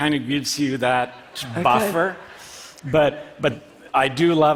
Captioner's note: laughter